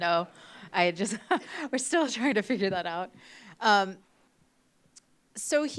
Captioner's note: laughs